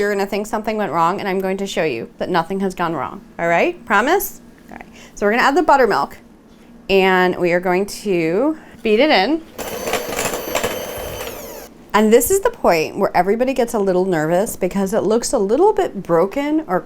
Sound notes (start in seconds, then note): 9.5 mixer whirs